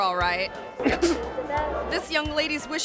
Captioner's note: coughs